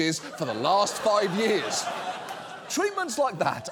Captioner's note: audience laughs